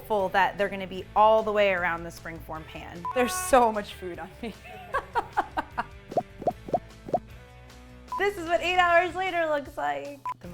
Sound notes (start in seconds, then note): 6.8 laughs